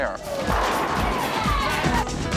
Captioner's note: roommates cheer; pins clatter